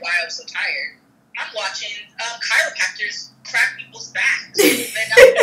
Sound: laughs

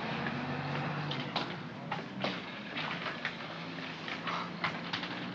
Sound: vehicle rumbles in distance; footsteps up stair ladder

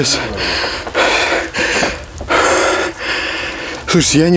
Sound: heavy breathing

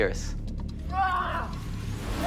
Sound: grunts

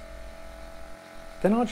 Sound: pressure pot whirring

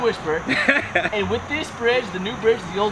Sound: laughs

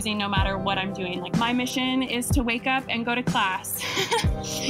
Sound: chuckles

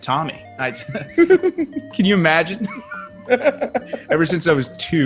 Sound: laugh

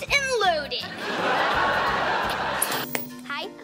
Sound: laughing

